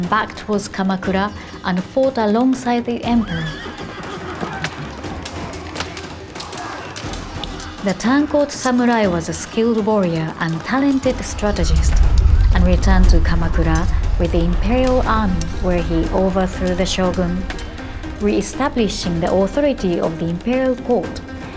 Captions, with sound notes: back towards Kamakura, and fought alongside the emperor. (soldiers shouting) (horses whinnying) The tanko samurai was a skilled warrior and talented strategist, and returned to Kamakura with the Imperial army, where he overthrew the Shogun, reestablishing the authority of the Imperial Court.